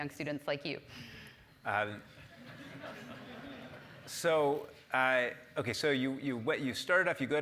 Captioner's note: laugh